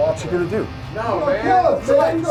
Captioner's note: voiceover